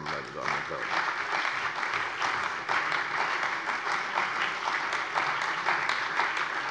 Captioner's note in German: Beifall bei der CDU und dem BÜNDNIS 90/DIE GRÜNEN